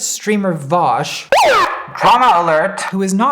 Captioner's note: alarm blaring